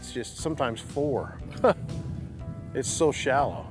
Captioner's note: laughs